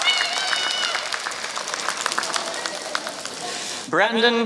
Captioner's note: applause